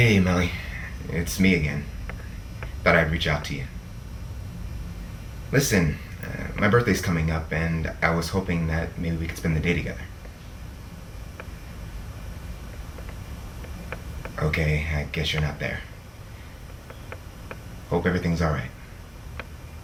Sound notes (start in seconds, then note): none